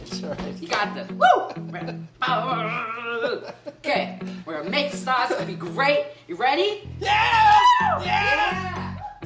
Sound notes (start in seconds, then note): 2.3 laughing